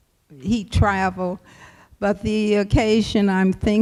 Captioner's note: none